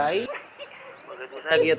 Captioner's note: laughs